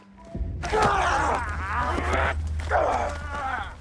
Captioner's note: groaning